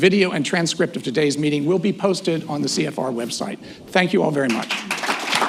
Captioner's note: applause